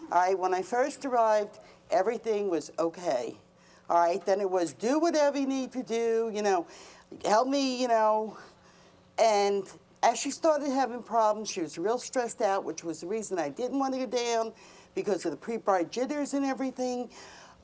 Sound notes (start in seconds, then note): none